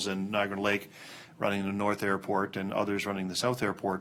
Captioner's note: none